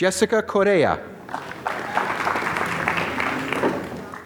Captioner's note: applause